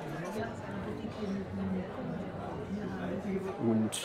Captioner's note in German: Stimmengewirr